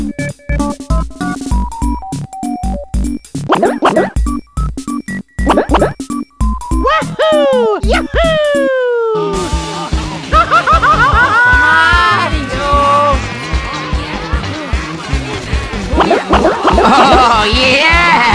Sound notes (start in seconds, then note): 9.7 Mario screaming; 15.8 Dr. Koops Luigi Doll gibberish